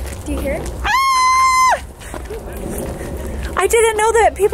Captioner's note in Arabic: صراخ